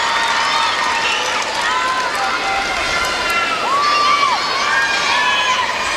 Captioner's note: applause